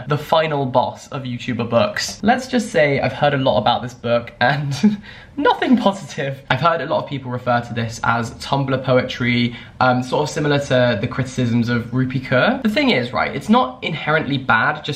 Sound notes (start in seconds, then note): 4.4 chuckles